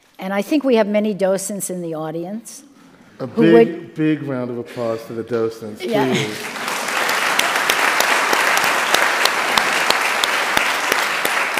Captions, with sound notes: And I think we have many docents in the audience. - A big, big round of applause to the docents, please. (audience applauds)